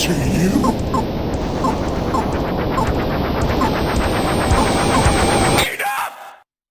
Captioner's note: game beeping